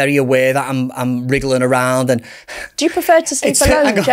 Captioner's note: sighs